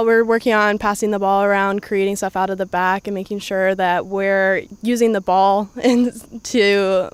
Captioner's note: laughs